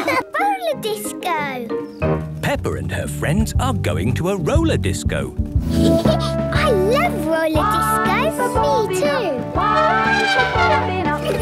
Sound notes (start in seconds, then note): 5.7 Peppa laughing; 9.5 trumpeting